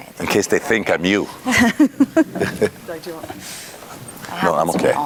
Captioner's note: laugh